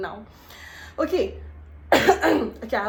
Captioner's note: coughs